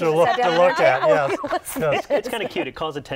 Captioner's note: laughs